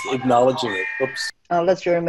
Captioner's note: phone rings